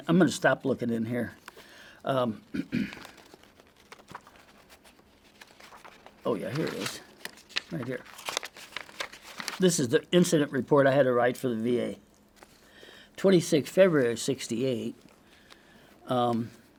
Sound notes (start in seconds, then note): 2.5 clears throat